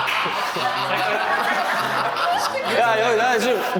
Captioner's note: everyone laughs out loud